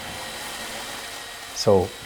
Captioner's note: chainsaw drilling